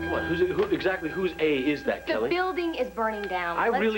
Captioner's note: fire alarm sounds